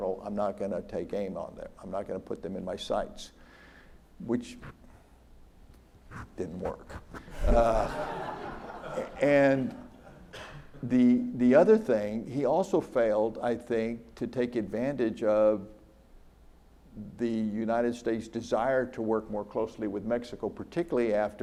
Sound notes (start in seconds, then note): 7.2 audience laughs